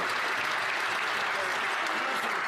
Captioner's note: some Applause